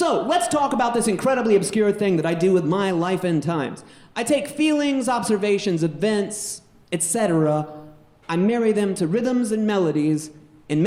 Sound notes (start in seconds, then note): none